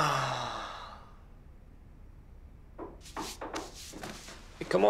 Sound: heavy sigh; knocking on door

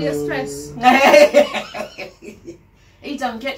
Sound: laughing

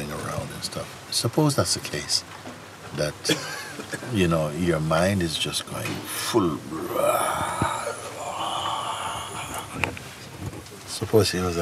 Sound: roars

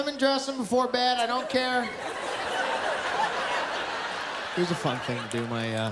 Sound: laughter

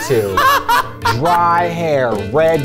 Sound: laughter

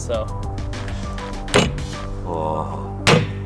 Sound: knocking with rubber mallet

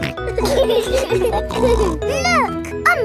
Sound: laughing

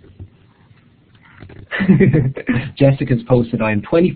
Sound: chuckling

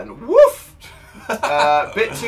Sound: laughs

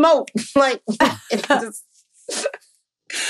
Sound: laughing

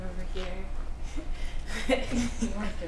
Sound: laughter

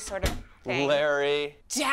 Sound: door clacks shut

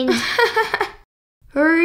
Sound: laughing

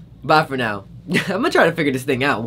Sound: laughs

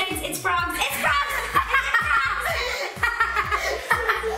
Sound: laughing

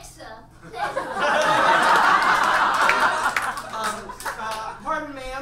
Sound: audience laughs

